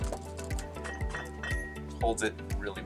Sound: bottles rattling

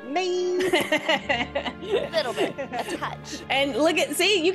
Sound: laugh

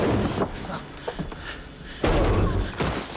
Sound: gasping

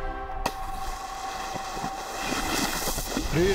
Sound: water slapping

